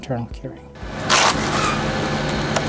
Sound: concrete scoop sound

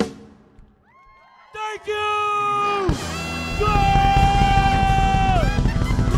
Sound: crowd cheering

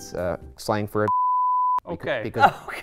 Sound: beep noise

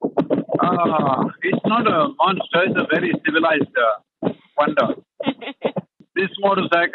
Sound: laughs

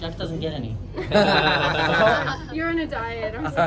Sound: laughters

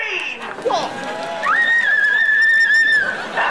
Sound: screaming

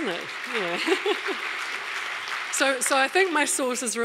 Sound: audience applauding; chuckles

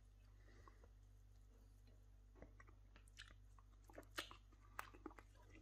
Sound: chews & slurps

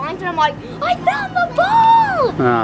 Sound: gasps

